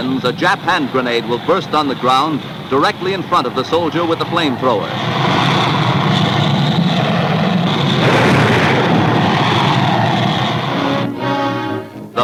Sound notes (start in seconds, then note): 6.8 booming; 10.9 dramatic orchestral music